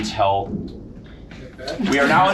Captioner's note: thunder rumbling